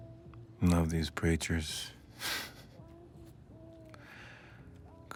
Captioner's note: laughs